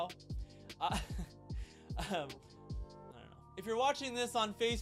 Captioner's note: laughing